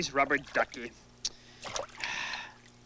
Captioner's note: sigh